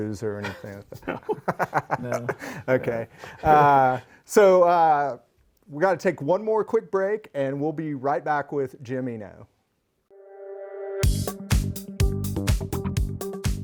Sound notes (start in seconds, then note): 1.0 laughs; 13.2 energetic music